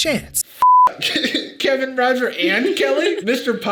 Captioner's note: beep; Sadie laughing